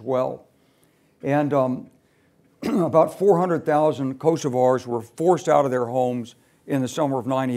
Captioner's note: cough